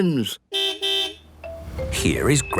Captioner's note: car beep